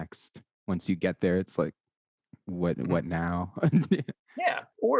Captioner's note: laughs